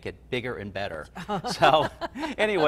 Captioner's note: both laugh